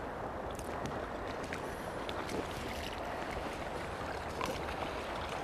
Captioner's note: splashing